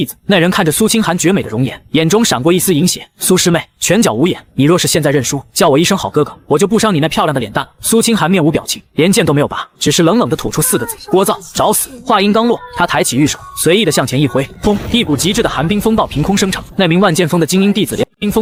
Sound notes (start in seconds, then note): 14.2 boom!